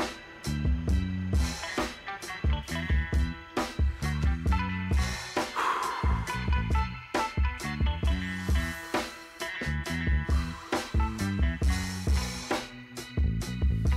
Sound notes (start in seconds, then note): 5.4 Bryan exhaling; 11.4 soft music